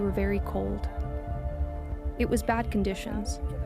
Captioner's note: speaking alternate language